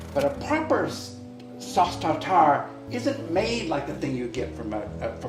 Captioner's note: none